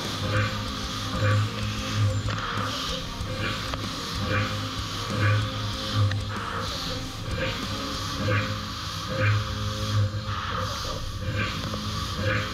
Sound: machining noises

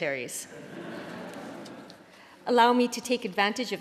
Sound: laughter

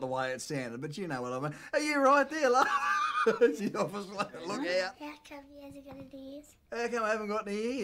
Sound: laughs

